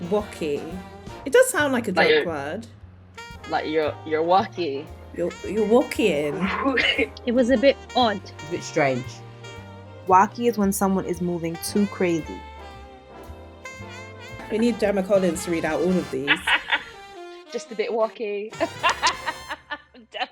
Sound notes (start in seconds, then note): 10.2 voiceover; 16.4 laughing; 18.5 laughing